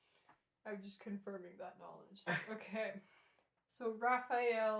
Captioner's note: laughter